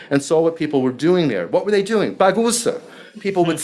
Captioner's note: speaking foreign language